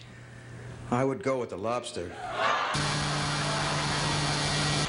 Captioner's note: buzzer